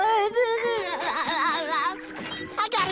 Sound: sobbing

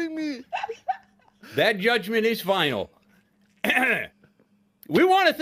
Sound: clears throat

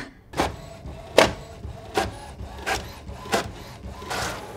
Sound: printer whirring

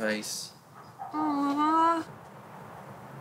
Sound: dog barking; cars pass

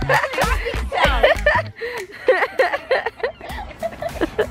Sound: laughs

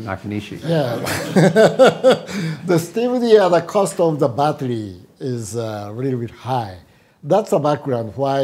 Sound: laughs

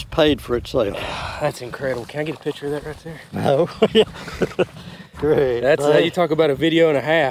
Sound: ha Ha

